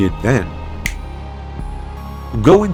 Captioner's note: snap